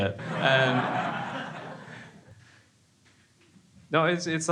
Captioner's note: crowd laughing